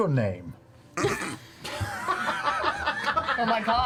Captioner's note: all laugh